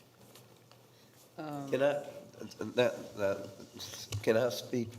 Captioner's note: stammers